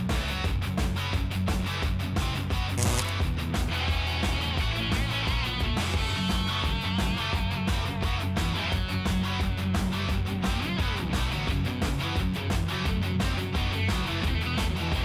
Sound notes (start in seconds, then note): none